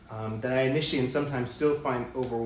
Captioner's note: none